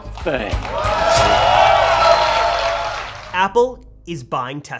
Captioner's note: crowd clapping